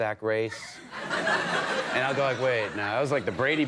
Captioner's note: audience laughing